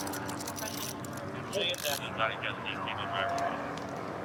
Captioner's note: dispatch chatter